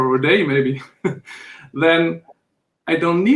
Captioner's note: chuckles